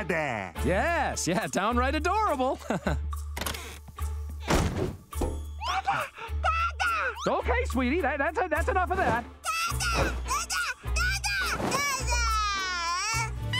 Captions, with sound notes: Yes, yeah, downright adorable. [laughing] Dada! Dada! Okay, sweetie, that-that-that's enough of that. Dada!